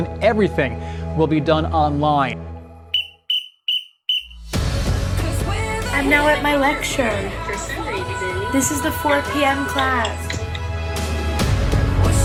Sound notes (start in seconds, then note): 2.9 whistles; 11.4 upbeat music